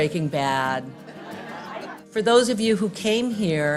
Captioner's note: laughing